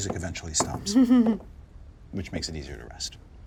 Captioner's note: chuckles